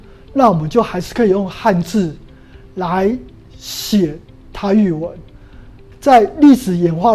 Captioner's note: chinese words